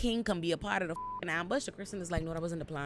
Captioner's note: beep